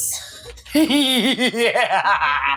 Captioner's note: evil laugh???